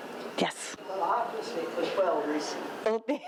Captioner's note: speaks faintly